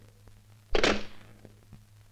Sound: receiver hang up

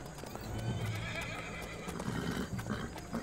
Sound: Kişneme sesleri

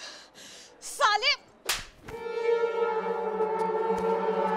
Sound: slapping

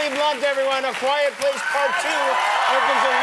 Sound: cheers and applause

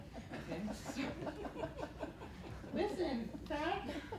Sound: laughter

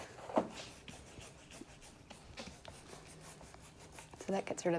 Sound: brush Scratching

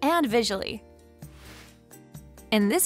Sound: air swooshes

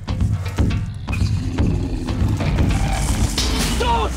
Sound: animal roaring

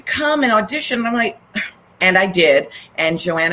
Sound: scoffs

